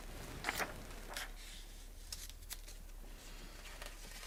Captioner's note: pages flapping